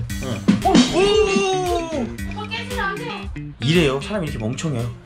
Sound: toilet wobbling

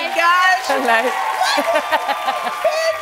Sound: laughing

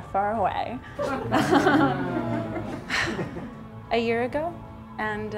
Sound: laughing

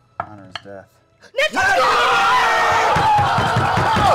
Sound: yelling and cheering

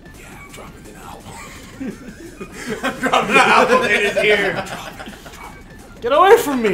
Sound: laugh

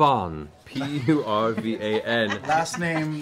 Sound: group laughter

